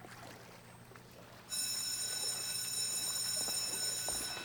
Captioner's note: bell rings